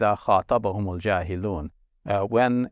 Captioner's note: speaking Arabic